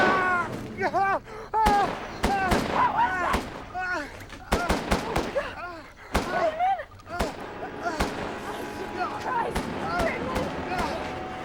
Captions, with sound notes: (yelling) (gun bangs) Who is it? (gun bangs) (groaning) Friedman! (gun bangs) (groaning) Christ, Friedman.